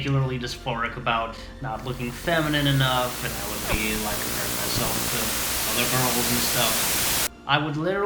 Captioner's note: static getting progressively louder in background